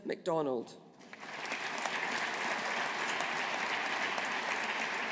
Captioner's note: audience applauding